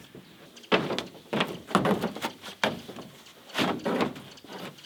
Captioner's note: birds chittering